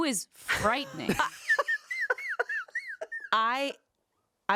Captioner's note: laughing